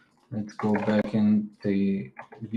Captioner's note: keyboard clacking